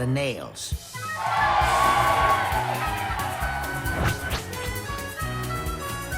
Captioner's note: crowd cheers